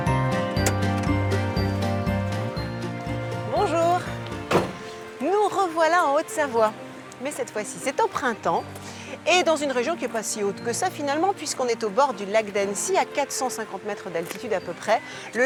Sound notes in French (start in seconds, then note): none